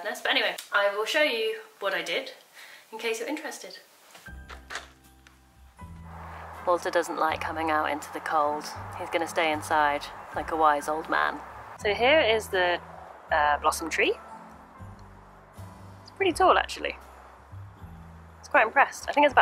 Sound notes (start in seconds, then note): 4.3 festive orchestral music; 4.5 door handle clicking